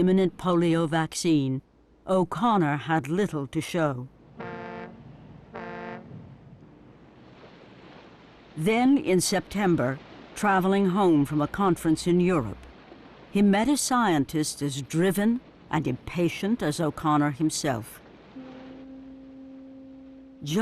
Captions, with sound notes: of an imminent polio vaccine, O'Connor had little to show. (ship's horn blaring) Then, in September, traveling home from a conference in Europe, he met a scientist as driven and impatient as O'Connor himself.